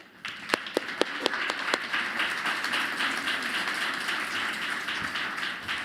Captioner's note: applause